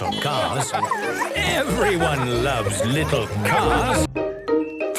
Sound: beeping and laughing; laughter; beeping

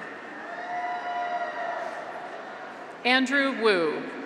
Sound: graduates cheer

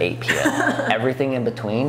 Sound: laughing

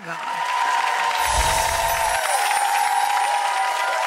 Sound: audience cheering

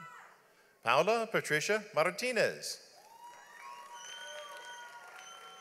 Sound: audience applauds

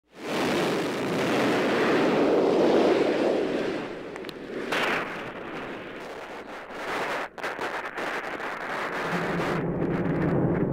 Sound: roar of rocket engines

